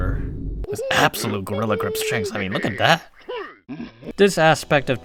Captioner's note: Donkey Kong sounds